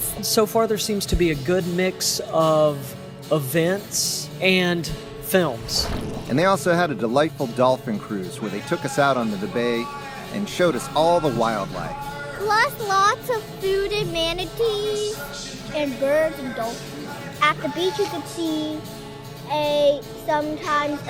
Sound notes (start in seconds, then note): 5.4 water splashing